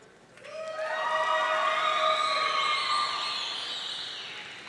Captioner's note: audience cheering